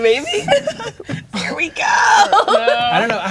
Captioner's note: laughing